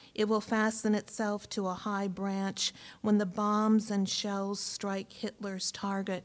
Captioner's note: none